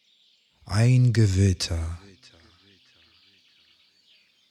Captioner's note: german